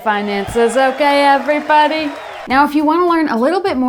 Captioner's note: cheers